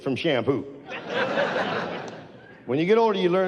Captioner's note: audience laughs